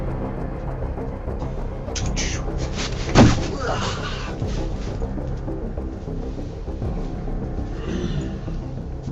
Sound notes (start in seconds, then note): 3.9 groaning